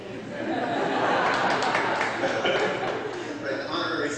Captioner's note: laughter intensifies